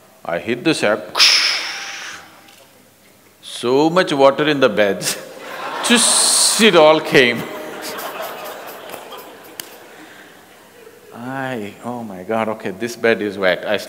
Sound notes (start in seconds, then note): 5.3 laughter; 7.3 laughs